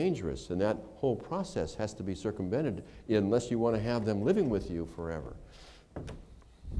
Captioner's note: footsteps